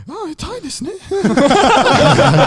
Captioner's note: laughing; speaks in foreign language